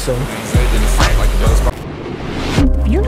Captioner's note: water rushing